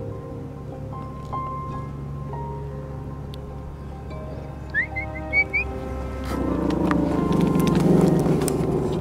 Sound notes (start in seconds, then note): 4.7 whistles